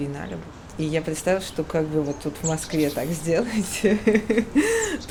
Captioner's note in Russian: смеется